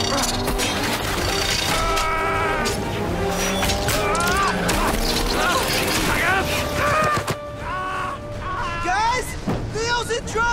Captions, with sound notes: [screaming] Guys, Leo's in trouble!